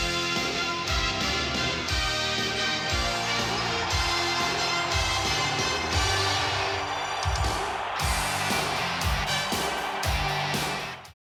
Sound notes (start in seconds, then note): 3.3 audience cheering and clapping; 8.4 upbeat music